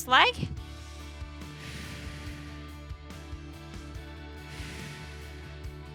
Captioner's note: upbeat music continues; exhaling